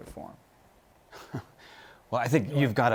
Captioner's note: chuckles